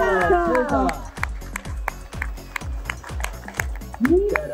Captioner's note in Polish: Aplauz